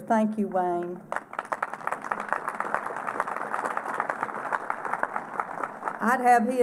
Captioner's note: applause